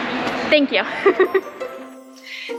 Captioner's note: giggles